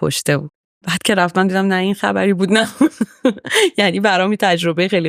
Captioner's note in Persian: خنده